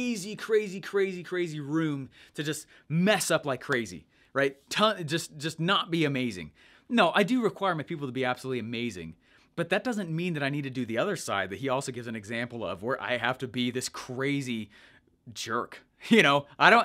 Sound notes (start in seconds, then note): none